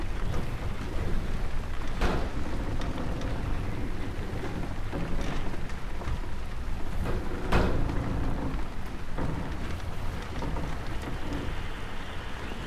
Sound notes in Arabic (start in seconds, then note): 3.0 أنين الخشب